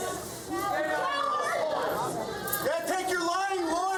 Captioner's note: crowd yelling